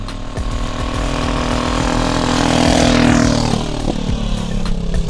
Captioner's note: motorcycle engine revving